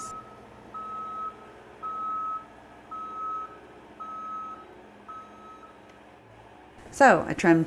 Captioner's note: beep…beep…beep…